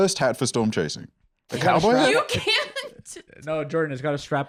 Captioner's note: laughing